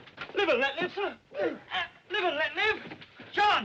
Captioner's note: Gemidos